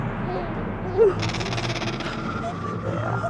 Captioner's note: animal chittering